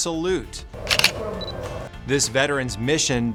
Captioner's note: camera clicks